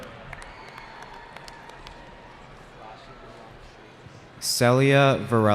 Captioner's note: cheering